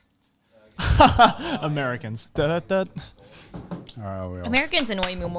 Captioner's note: laughing